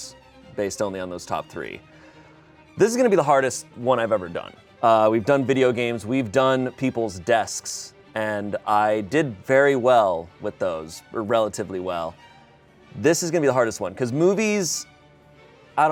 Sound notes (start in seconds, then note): none